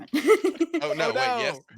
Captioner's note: laughs